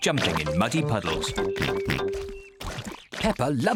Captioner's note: oinks